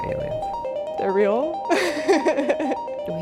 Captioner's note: laughs